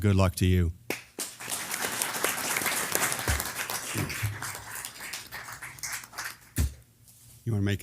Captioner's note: applause